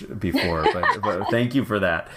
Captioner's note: laugh